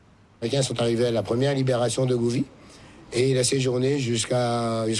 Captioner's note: speaking in French